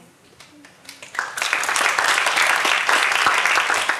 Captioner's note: applause